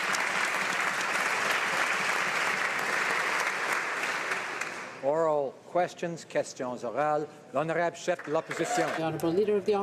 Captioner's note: applause